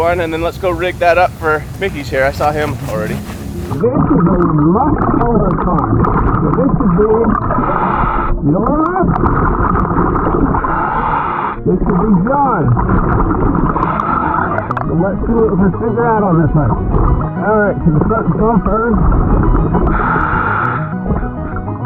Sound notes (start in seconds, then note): 5.8 oxygen bubbling in water; 10.0 oxygen tank hissing; 19.7 oxygen tank hissing